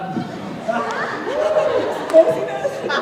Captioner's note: laughing